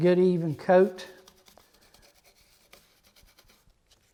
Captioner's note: brush rubs